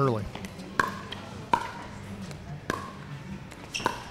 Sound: ball bouncing

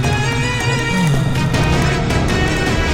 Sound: sighs

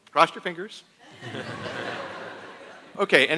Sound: attendees laughing

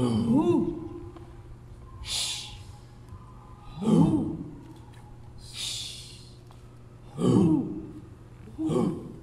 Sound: breathing sounds, vocalizations, and clapping

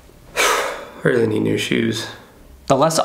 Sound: sigh

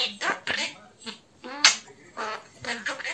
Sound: air-kissing

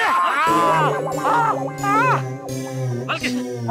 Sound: yelps

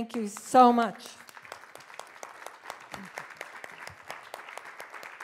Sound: audience applauding

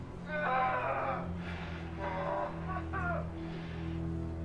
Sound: Sean grunting

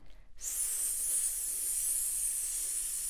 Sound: hisses

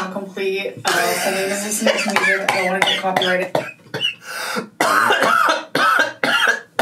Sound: coughing; laughing

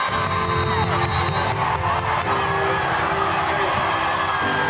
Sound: cheers and applause

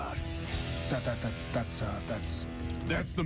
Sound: stuttering

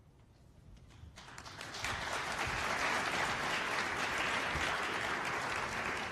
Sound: applause

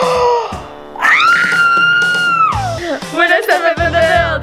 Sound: gasps; screams

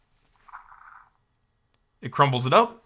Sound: device mimics paper crumpling

